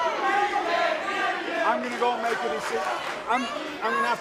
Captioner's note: crowd chatter